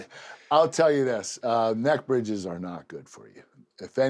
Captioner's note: laugh